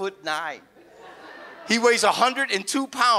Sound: audience laughs

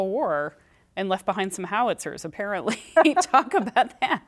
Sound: laughter

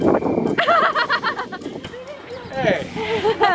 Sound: laughing

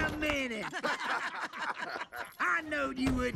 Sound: laughing

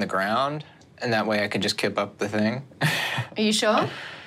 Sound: chuckles

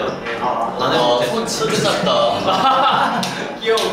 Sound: laughIng

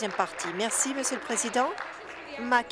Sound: applause

